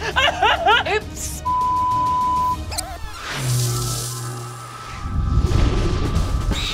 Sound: laughing; beeping

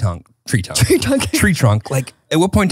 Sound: laughs

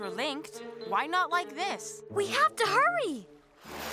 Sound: none

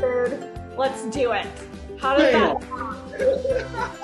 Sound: laughs

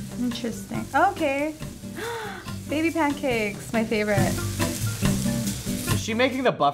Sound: gasps

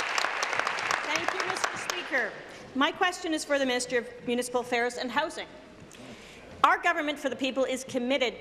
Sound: applause

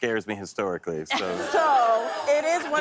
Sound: audience "Oh's"

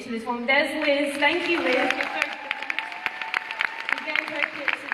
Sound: applause

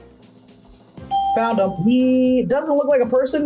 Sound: bell rings

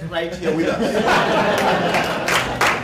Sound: laughter; applause

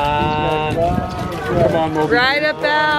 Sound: splashing

